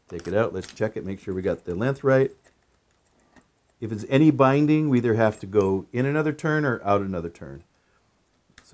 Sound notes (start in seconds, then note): 3.3 keys jingling